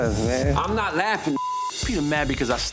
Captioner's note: beep